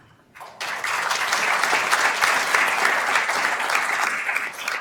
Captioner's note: attendees applauding